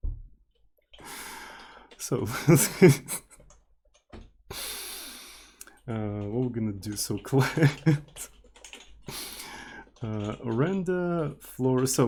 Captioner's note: teakettledrone